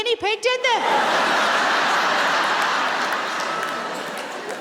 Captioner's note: audience laughs